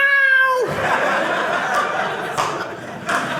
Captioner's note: audience laughing